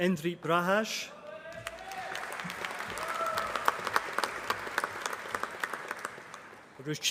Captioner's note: applause